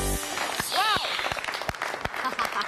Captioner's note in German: Beifall